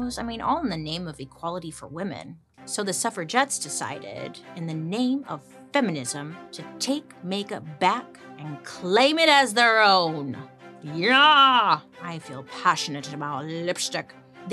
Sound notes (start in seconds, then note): none